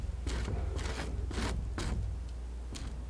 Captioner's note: tapping